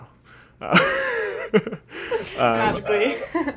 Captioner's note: laughing